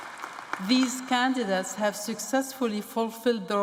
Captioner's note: applause